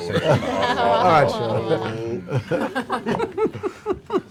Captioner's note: laughter